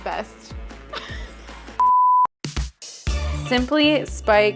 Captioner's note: laughing; screen beeping; disco music